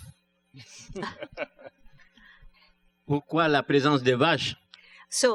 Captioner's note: laughs; speaking french